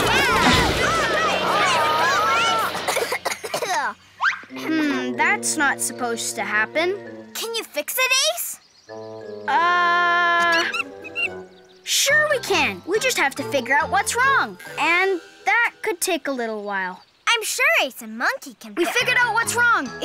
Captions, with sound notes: Oh no, aww! Way to go, Ace! (gentle plaintive music) - Hmm, that's not supposed to happen. - Can you fix it, Ace? - Uh. (Monkey screeching) Sure we can! We just have to figure out what's wrong. And that could take a little while. - I'm sure Ace and Monkey can - We figured out what's wrong!